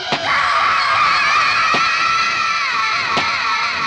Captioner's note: screaming